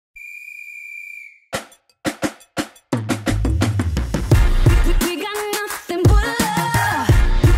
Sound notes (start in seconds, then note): 0.1 whistle blows; 1.5 dance music plays